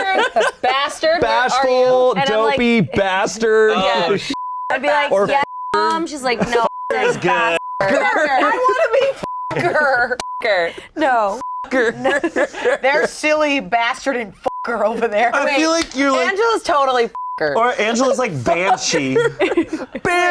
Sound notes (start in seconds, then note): 3.7 beep; 9.5 everyone laughing; 14.4 beep; 17.2 beep; 18.3 laughs